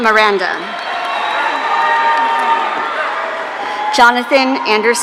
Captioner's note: audience cheering